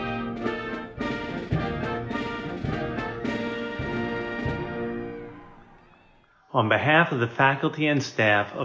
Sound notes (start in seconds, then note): 5.3 people cheering